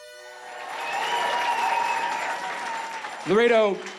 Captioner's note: crowd cheering